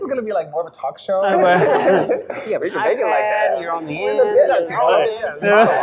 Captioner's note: panelists chattering